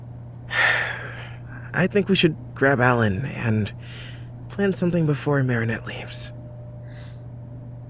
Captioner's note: sigh